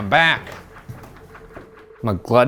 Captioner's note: footsteps descending